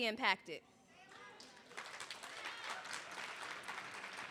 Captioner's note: applause